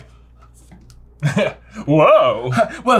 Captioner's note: laughs